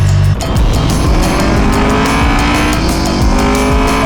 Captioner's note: engines roaring; audible beep